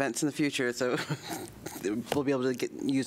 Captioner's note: laughter